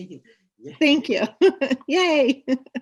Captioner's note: laughs